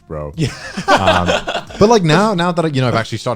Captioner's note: guys laughing